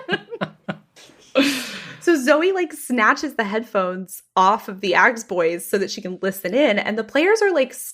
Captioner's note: laughs